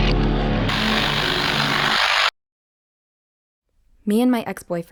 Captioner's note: tense dramatic music; TV signal buzzing